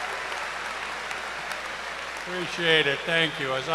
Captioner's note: cheers and applause